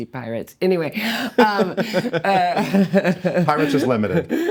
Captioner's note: laughing